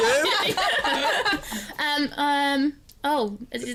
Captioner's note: laughter